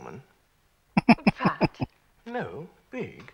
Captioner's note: chuckling